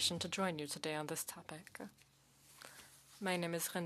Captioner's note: speaking French